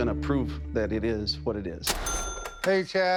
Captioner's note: cash register chiming